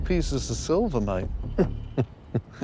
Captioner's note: chuckles